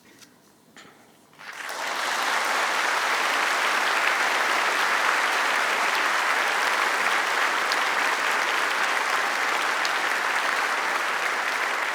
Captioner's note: applause